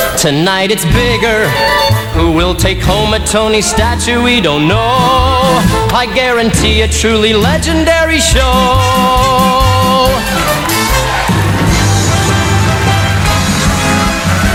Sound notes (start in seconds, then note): 9.2 applause